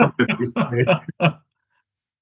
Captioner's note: laughing